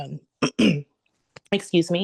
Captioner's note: clears throat